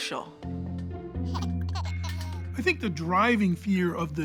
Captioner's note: giggling